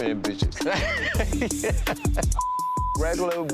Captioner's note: laughs